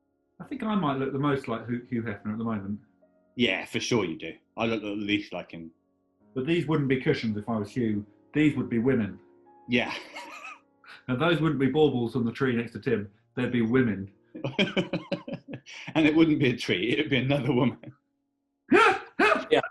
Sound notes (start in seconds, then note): 9.7 laughs; 14.4 laughing; 18.2 laughter